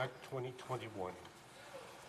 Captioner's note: speaking French